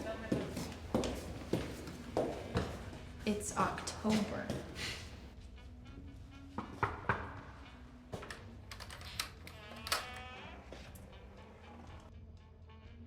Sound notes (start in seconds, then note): 7.0 knuckles rapping; 8.7 door creaking